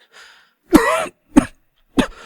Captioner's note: cough cough